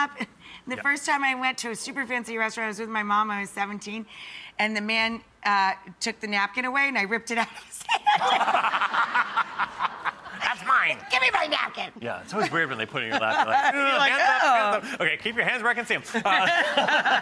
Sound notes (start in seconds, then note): 7.5 laughter